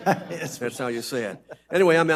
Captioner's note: audience laughs